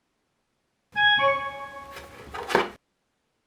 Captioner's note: dinging